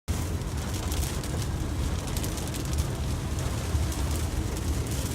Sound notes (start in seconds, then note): 0.0 rain hitting window